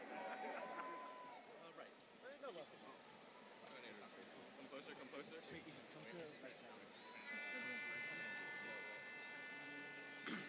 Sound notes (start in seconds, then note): 3.3 students chattering; 7.5 trumpet blaring